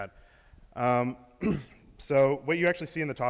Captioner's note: clears throat